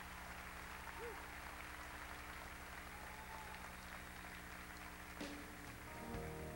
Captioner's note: crowd cheering